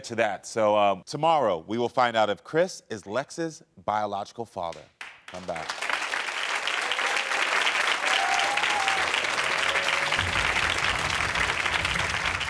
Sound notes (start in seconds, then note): 5.2 audience applauding; 5.6 audience cheering; 9.6 dramatic music